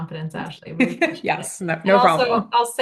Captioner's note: laughing